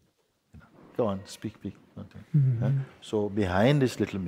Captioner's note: softly chuckles